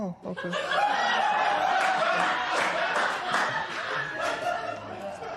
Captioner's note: laughter